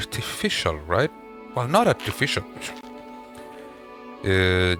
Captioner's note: scoffs